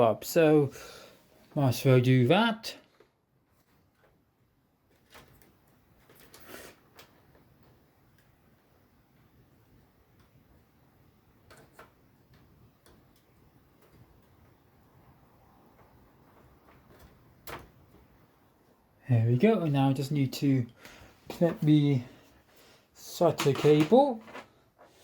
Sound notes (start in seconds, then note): 17.3 power cable connected sound